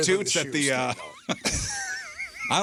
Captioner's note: laughing